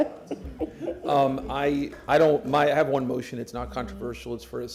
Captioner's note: laughter